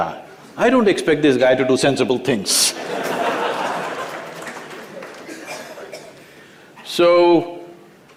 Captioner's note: laughter